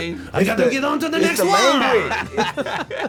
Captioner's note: French accent